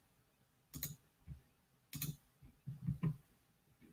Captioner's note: mouse clicks